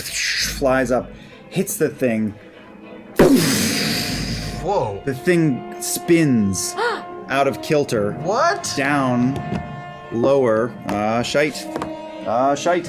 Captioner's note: explosion